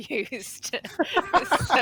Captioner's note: laughter